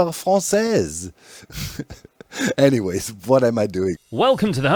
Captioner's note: chuckles